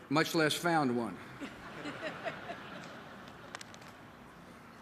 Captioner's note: laughter